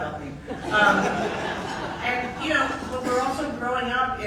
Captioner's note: audience laughing